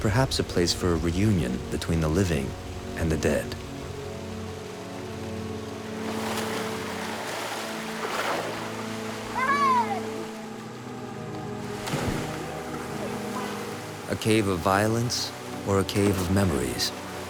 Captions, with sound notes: Perhaps a place for reunion between the living and the dead. [kid shouts] A cave of violence or a cave of memories?